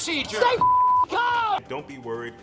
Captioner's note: beep